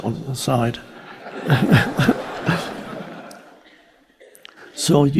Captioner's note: audience laughing